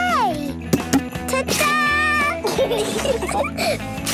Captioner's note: Peppa laughing; laughter